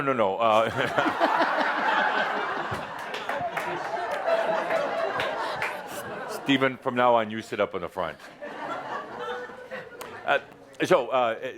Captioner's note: laughter